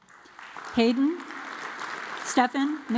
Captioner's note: audience applauds